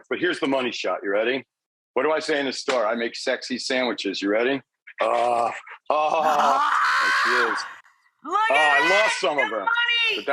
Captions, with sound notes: but here's the money shot, you ready? What do I say in this store? I make sexy sandwiches, you ready? (Rachael screaming) Look at that- Oh, I lost some of it,